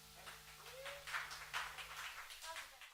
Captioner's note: applause